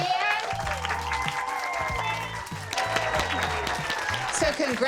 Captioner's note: children clapping